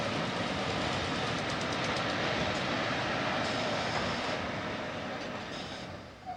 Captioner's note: train arrives